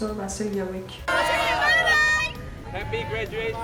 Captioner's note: group cheering